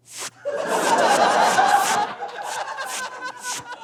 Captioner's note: audience laughs; laughs uproariously